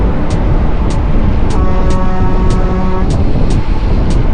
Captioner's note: horn sound